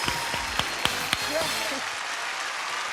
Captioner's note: ding